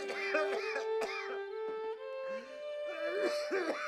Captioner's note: hard coughing